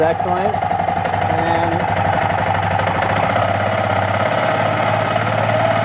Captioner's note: engine revs up